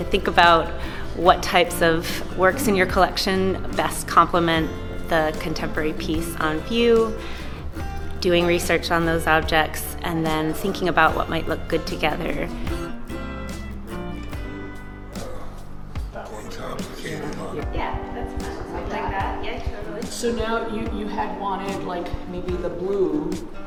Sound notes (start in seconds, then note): 12.7 mellow music; 16.8 group chats